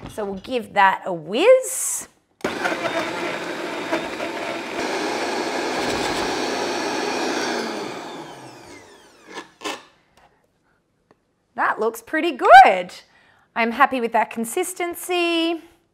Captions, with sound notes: So we'll give that a whizz. (blender whizzing) (blender whizz stopping) That looks pretty good. I'm happy with that consistency.